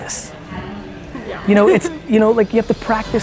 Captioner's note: laughs